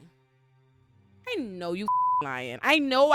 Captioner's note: beep